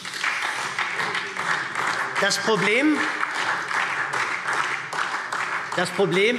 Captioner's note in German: Beifall SPD